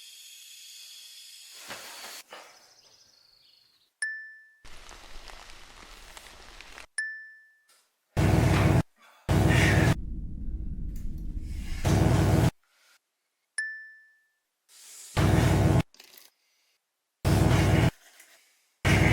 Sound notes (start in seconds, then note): 0.2 gas hissing; 2.4 birds chirping; 4.3 bell dings; 4.7 water falling; 7.1 bell dings; 8.6 electric buzzing; 10.4 heart beating; 12.3 electric buzzing; 13.6 bell dings; 15.8 electric buzzing